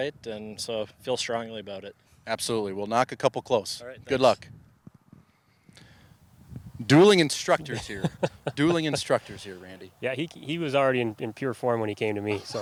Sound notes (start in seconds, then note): 7.6 laughs